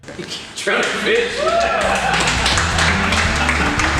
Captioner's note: applause; laughter